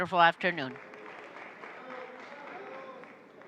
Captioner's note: applause